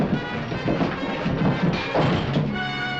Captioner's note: glass shattering